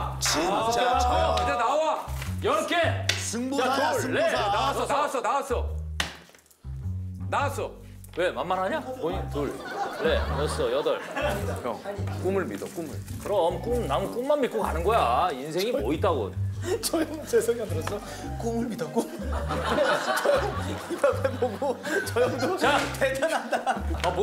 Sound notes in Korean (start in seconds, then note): 11.5 속닥